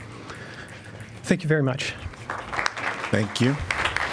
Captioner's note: applause